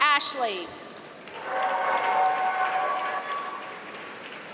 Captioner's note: applause